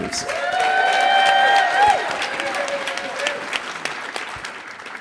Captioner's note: audience applauding